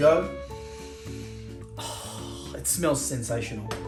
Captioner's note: inhaling and exhaling